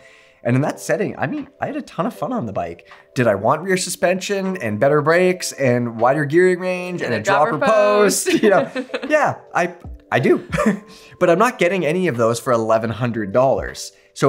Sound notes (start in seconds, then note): 8.2 chuckles